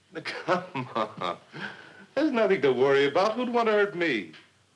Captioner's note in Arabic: يضحك